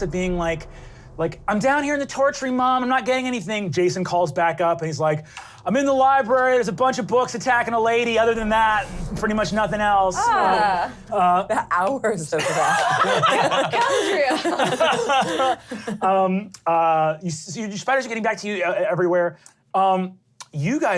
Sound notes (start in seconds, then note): 12.4 laughter